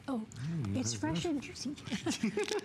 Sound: laughter

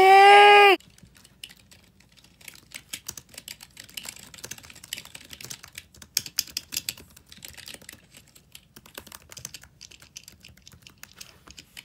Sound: ASMR Typing Sounds

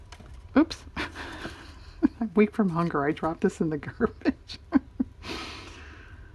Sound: laughs

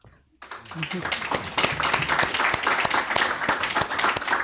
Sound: applause

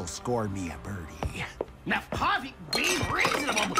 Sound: objects clatter

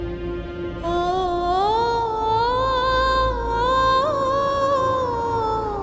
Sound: emotional vocalising

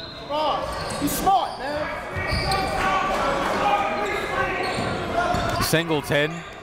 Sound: whistle blows; crowd talking; coaches yelling

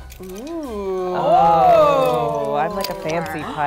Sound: oohs and ahhs

